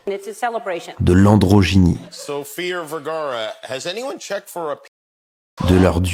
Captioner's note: french dialogue continues